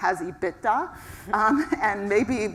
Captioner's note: laugh